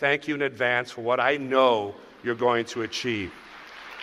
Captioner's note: cheers and applause